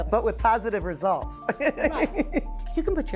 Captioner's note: laughs